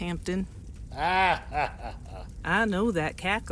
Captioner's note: Wade laughs